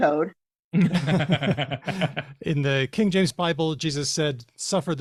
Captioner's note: laughter